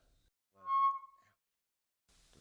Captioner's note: mic screeches